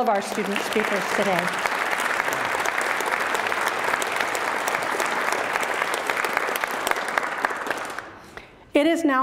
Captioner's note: applause